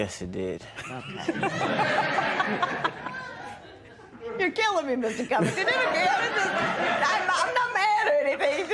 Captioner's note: laughter